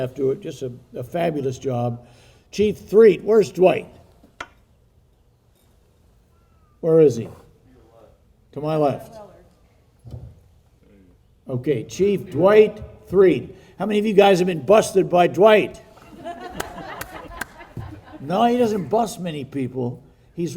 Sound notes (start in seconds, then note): 15.9 people laughing